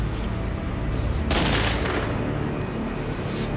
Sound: gun shot

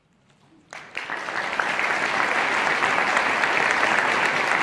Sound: audience applauding

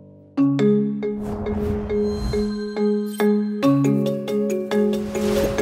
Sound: calm bright music; logo whooshes; air whooshes

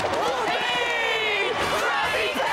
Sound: cheering

